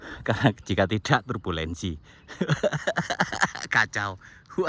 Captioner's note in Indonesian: tertawa